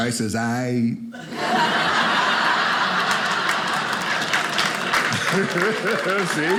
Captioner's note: audience applauding